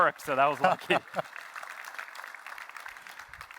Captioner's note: laughter